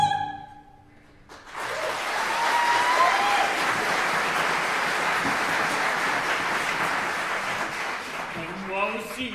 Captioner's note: applause